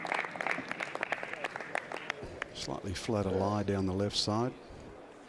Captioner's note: applause